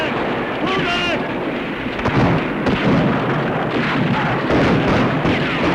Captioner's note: gunfire